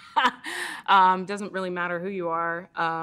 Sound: laughs

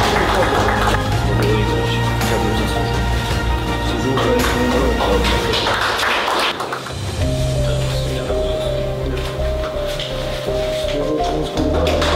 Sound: applause + music

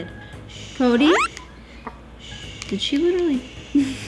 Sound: soft shushing

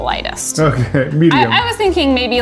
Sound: chuckling

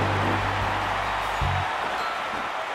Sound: crowd cheers

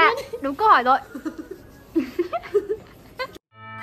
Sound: giggles

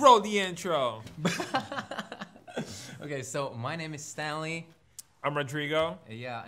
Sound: laughs

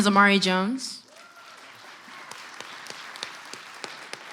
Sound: clapping

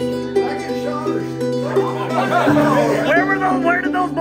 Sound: all laugh

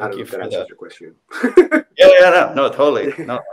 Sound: laughing

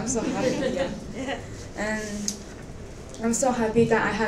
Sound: members of the audience laughing

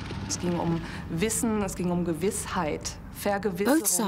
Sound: speaking German

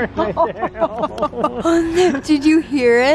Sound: laughs

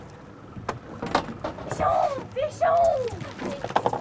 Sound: background chatter

